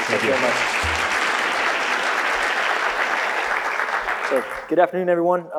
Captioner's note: audience applauds